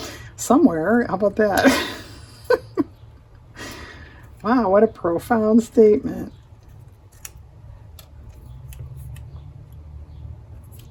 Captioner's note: laughs